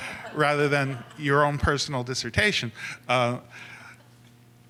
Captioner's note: laughter